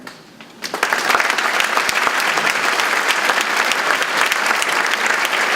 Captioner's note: audience clapping